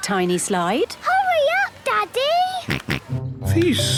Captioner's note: George snorts